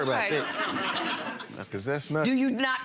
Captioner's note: audience chuckles